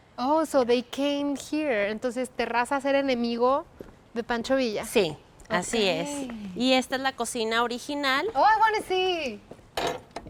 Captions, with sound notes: Oh, so, they came here. [Both speaking Spanish] Oh, I want to see.